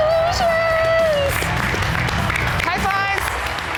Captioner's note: virtual crowd applauding